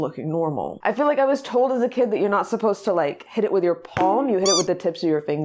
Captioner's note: coconut bonk; squeak